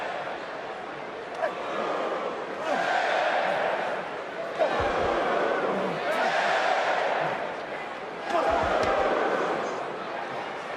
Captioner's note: crowd boos and cheers